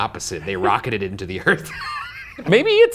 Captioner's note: laughs